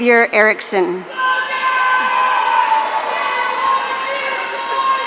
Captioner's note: audience cheering